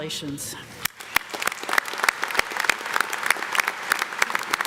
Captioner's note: audience claps